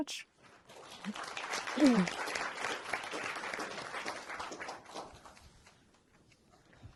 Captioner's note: applause